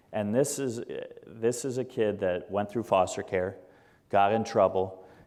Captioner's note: none